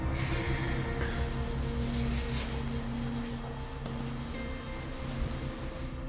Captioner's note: sleeping bag rustles